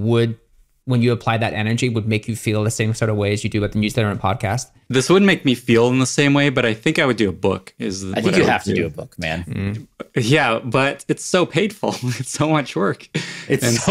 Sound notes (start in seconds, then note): 9.2 laughs